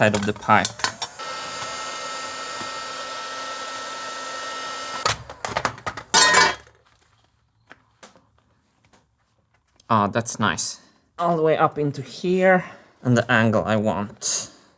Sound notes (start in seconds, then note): 0.5 heat gun blowing; 6.1 clang